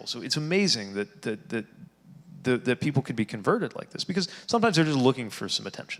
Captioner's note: none